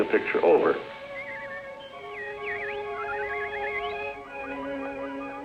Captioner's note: birds chirping